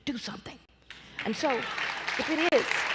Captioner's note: applause